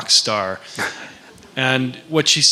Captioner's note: laughs